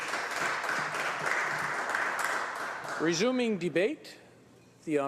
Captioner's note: applause